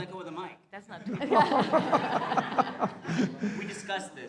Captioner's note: laughter